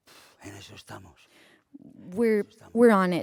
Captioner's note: speaking spanish